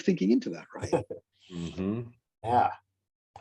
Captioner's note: chuckles